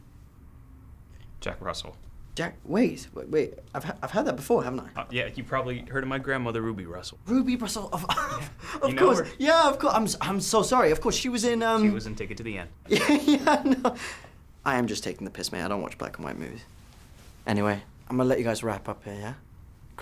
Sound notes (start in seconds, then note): 7.7 laughs; 12.8 chuckles